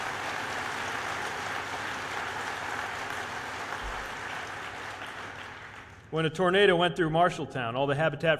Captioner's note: cheers/applause